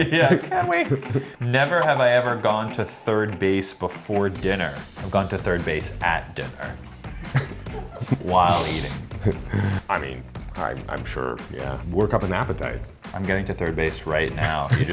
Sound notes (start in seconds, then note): 7.1 Luke chuckles